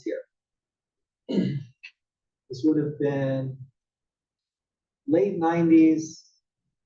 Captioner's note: cough